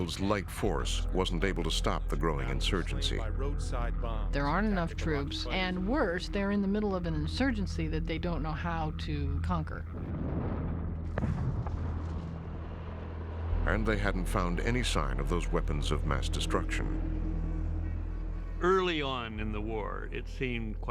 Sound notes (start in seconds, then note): 10.0 explosion